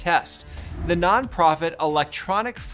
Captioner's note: graphics whooshing